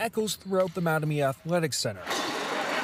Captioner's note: applause